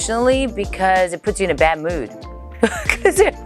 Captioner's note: laughs